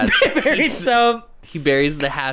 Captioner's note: laughs